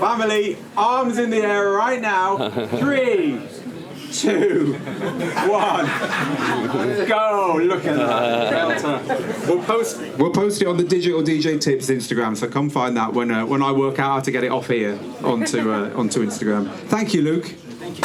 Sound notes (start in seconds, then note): 4.5 audience laughing